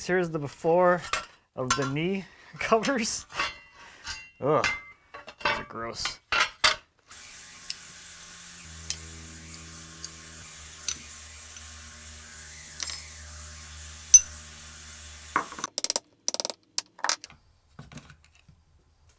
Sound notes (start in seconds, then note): 7.1 high pitched whirring; 16.2 rapid tapping